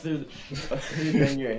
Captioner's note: confused laughter